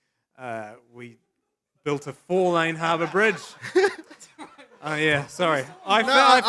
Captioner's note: laughs